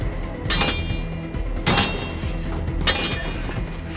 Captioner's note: ax clanking